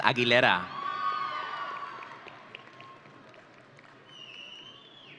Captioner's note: audience cheering